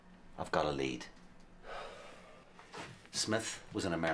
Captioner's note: Tony sighs